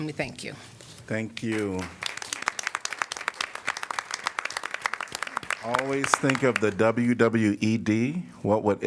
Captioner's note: applause